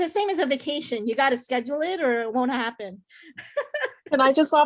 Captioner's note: laughs